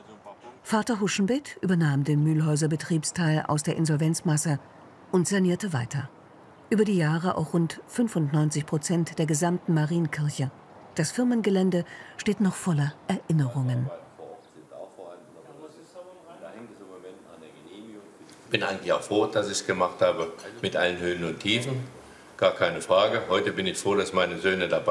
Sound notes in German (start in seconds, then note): 14.1 leises Stimmengewirr